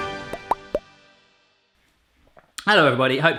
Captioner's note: cute bubble sound